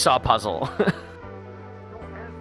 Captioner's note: chuckling